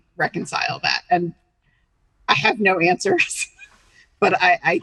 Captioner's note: chuckling